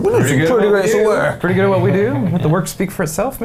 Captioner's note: laughing